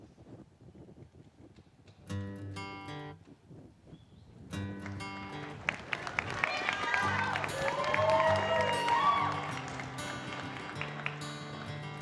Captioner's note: applause